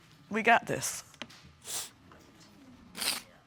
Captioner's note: sniffles